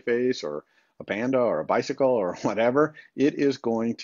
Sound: chuckles

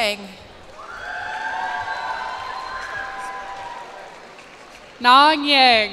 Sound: cheers and applause

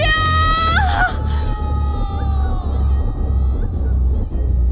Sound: Shorya screeming

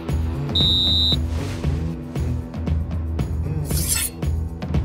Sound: whistle blows; knife slices

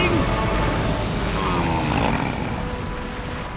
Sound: grunting

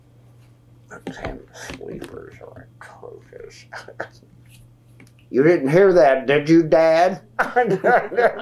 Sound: laughter

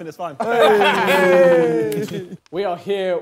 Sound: laughter

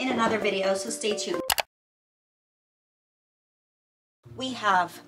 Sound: mouse clicking

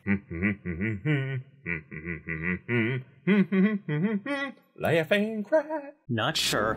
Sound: Humming tune of 'Family Guy'

